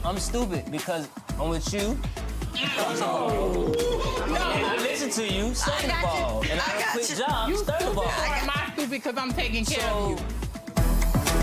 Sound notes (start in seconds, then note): 2.4 audience oohing